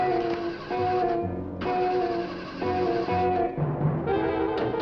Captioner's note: engine spluttering